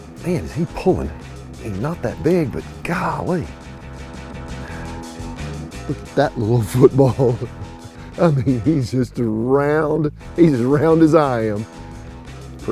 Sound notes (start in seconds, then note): 5.8 chuckling